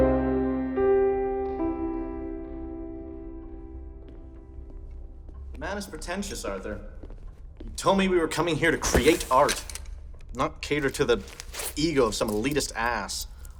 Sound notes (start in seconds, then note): 2.3 footsteps